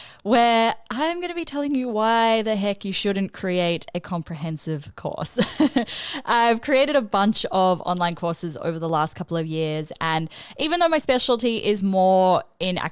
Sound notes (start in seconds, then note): 5.4 chuckles